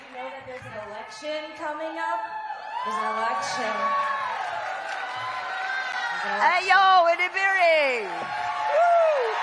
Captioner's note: cheering